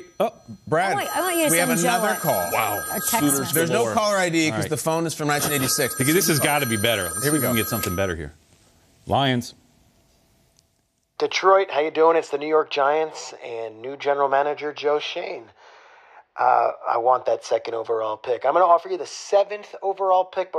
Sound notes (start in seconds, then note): 3.9 phone ringing